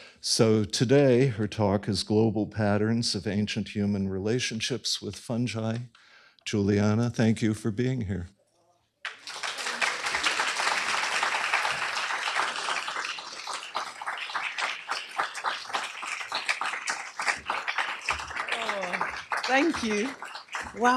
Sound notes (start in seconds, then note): 9.0 applause